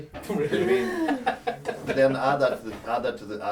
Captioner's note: laughing